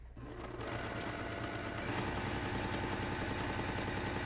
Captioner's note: machine whirs